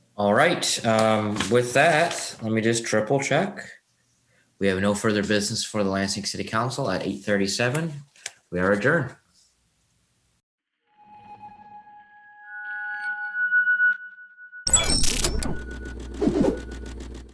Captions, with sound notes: - All right, with that, let me just triple check. We have no further business for the Lansing City Council at 8:37. We're adjourned. (soft music) (whooshing)